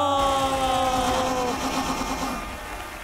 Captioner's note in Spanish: Aplausos